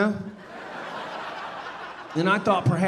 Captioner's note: audience laughing